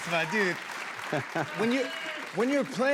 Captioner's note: cheers and applause